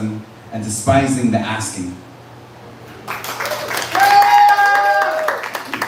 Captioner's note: applause